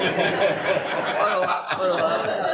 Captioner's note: all laughing